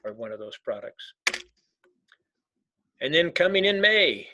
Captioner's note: keyboard clicking